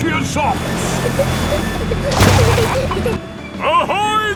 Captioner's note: peppa and george giggling